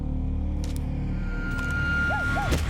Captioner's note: twig snaps